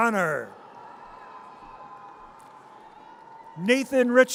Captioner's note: audience cheers